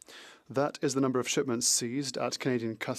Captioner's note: speaking French